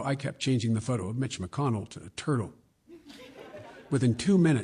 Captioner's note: laughter